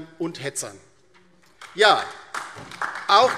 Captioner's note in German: Beifall DIE LINKE und SPD